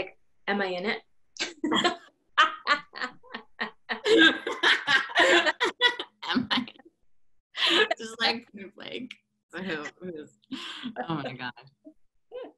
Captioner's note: laughter